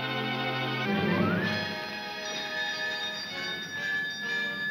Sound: bell rings

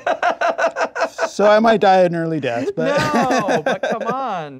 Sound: laughing

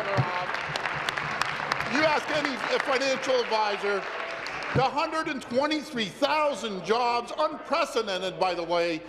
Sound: applause

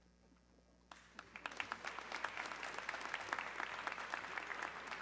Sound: audience clapping

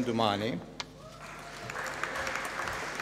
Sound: applause

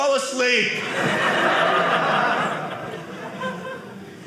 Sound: audience laughing

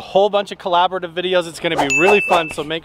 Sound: dinging

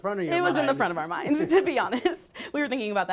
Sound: laughter

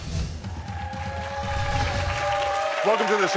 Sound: audience applauds

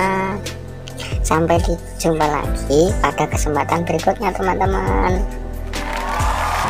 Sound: applause

